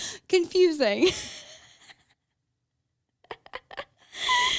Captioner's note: laughs